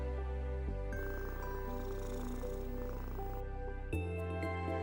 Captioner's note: cat purring